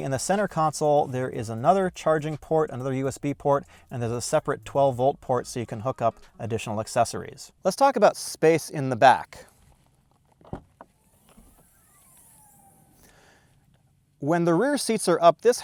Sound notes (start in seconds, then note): 10.4 car trunk opening